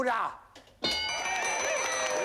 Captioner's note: cheering